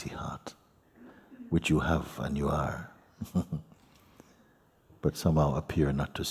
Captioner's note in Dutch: grinnikt